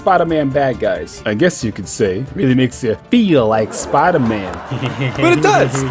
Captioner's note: hehehehe